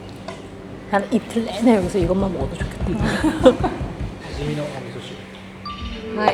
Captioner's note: laughs